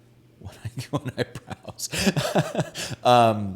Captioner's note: laughs